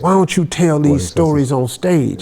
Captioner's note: men laughing